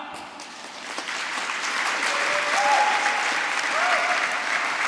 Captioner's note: applause